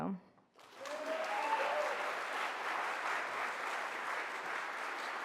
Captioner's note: audience applauding